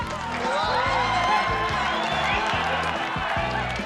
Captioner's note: crowd cheering